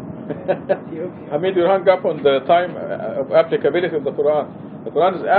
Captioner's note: gülüyor